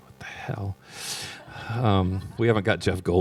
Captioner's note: laughter